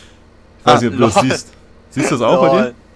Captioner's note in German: Lachen